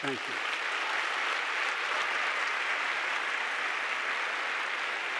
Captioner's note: audience applauding